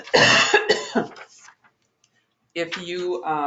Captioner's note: coughs